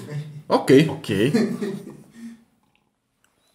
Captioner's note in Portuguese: risos